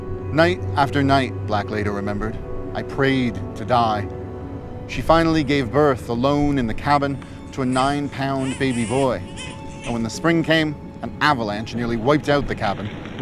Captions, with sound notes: Night after night, Black later remembered, I prayed to die. She finally gave birth alone in the cabin to a nine-pound baby boy. (baby crying) And when the spring came, an avalanche nearly wiped out the cabin